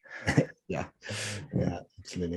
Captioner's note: chuckling